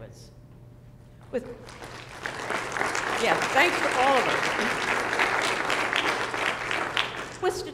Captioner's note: applause